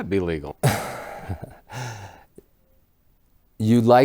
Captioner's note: laughs